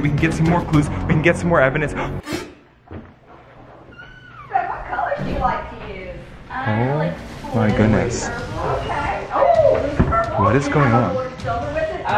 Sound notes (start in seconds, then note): 2.1 gasp; 2.9 door creaks; 8.2 women talking to each other loudly